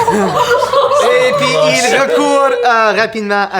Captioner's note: laugh